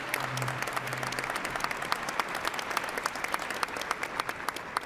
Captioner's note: applause